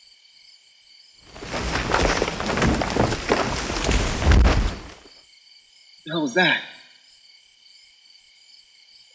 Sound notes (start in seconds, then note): 1.2 brush rustling; 4.3 heavy thump